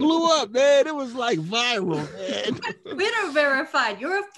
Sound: laughing

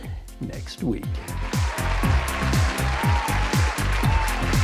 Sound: applause; upbeat instrumental music

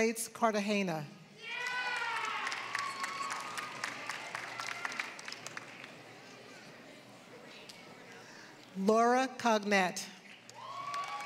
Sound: applause; applause

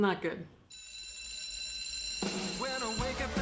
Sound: ringing; upbeat music

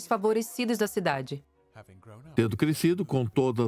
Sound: voiceover

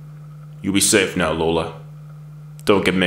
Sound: voiceover

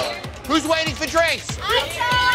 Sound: shouting

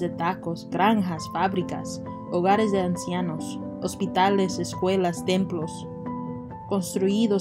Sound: Spanish

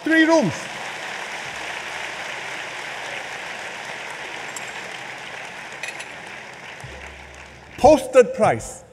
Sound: applause

